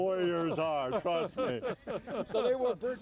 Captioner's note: everyone laughs